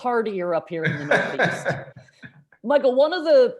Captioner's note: laughs